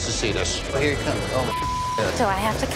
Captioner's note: beep